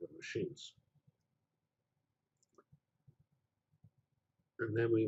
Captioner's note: pause